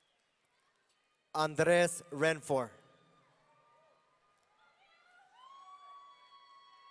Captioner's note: audience cheering